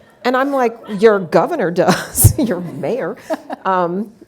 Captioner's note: laughs